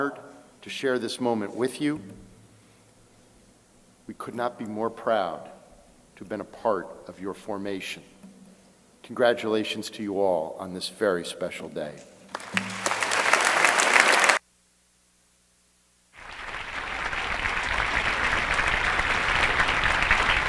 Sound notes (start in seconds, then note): 12.3 crowd applauding